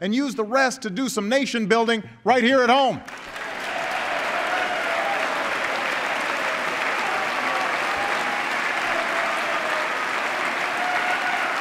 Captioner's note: applause